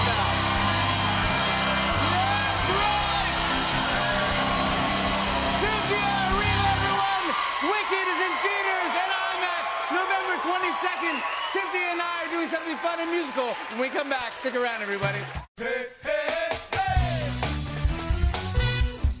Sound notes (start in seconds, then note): 0.1 cheers and applause; 4.0 cheers and applause continues